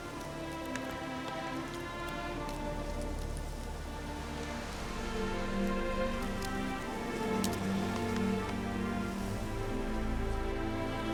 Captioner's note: light breeze, leaves rustling